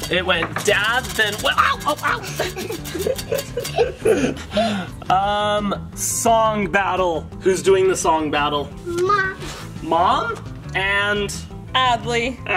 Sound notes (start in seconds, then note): 2.1 laughing